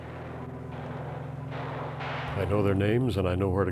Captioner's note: ^gunfire^